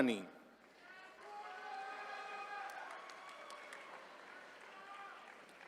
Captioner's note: attendees cheering